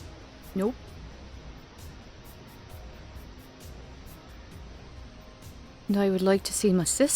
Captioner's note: static